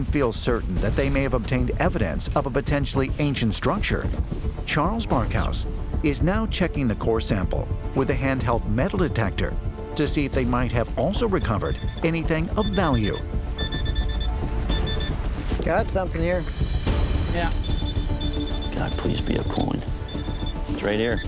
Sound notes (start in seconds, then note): 11.0 beeping; 17.4 beeping continues